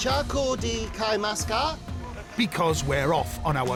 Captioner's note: speaking Asian language